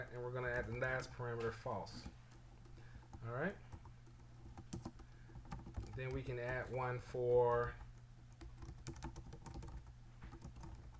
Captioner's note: typing sounds